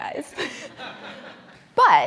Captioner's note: laughs; audience laughs